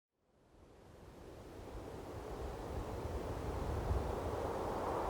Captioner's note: wind whooshing